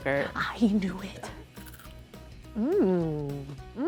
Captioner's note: crunching sound